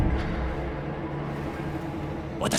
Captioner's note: distant clang